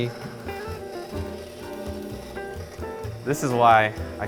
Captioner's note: mixer running